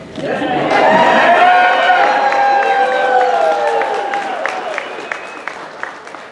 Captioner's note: audience applauding and cheering